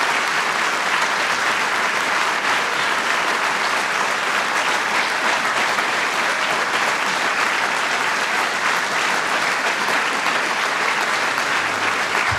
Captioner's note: applause